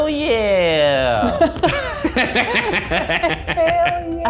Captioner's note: laughter